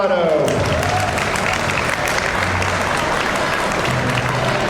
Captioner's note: audience applauds